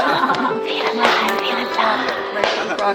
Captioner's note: laughs